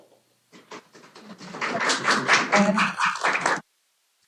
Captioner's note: applause